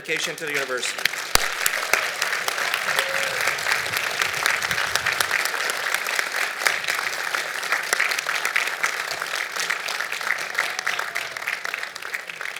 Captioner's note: applause